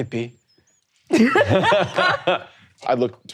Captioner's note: laughing